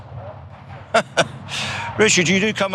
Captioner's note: laugh